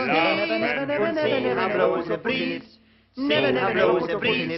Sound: voices clamoring

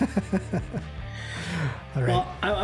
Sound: laughing

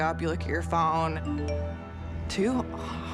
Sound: phone chimes

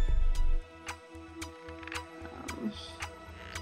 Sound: ticking noise

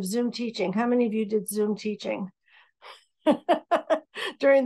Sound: laughing

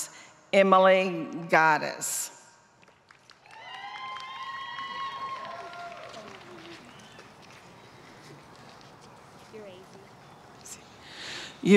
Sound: applause

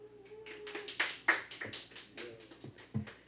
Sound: background clapping

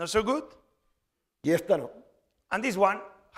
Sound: speaking spanish

